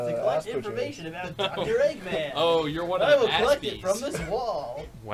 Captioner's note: chuckles